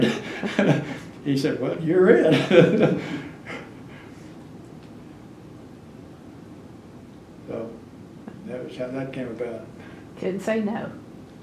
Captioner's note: laughs